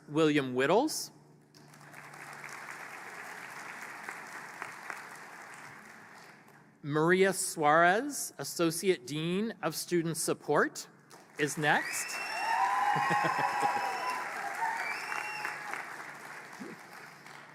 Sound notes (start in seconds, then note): 1.5 applause; 11.1 applause; 13.7 cheering